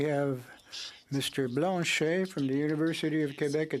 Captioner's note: speaking French